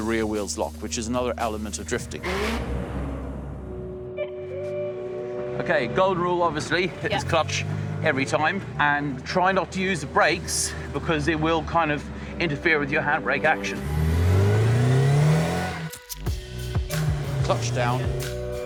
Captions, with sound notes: the rear wheels lock and is another element of drifting. [SOFT MUSIC] Okay, gold rule, hit this clutch every time and try not to use the brakes because it will kind of interfere with your handbrake action. [CAR REVS] Clutch down.